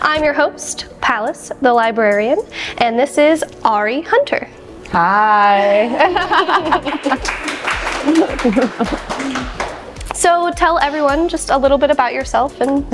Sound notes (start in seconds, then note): 6.2 audience applauding